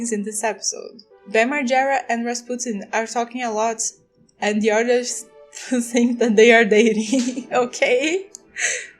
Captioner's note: laughs